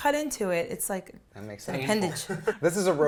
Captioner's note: laughs